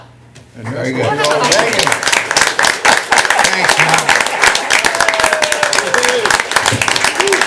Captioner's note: applause